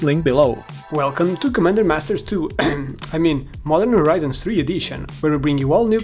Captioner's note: ahem